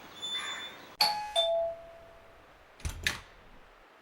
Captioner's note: door bell